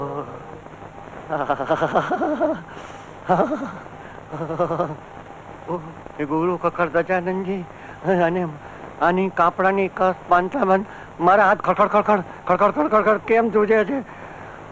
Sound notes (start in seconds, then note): 1.2 shivering